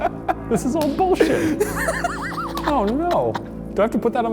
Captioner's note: laughing